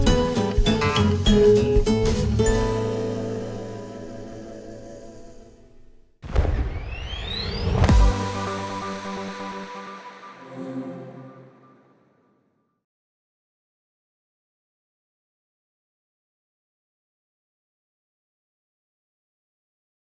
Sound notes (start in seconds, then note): 0.0 upbeat music; 6.3 popping; 7.8 electronic music